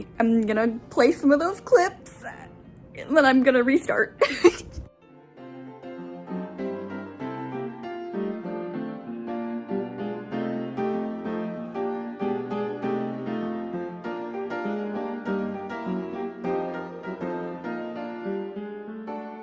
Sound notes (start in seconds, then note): 4.2 laughing